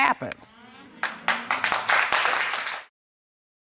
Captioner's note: applause